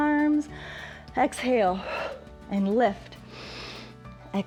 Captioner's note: inhales; exhales